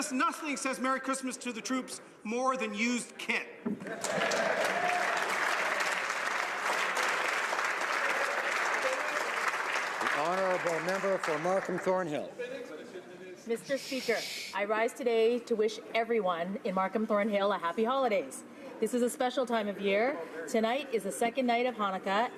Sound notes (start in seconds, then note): 10.8 applause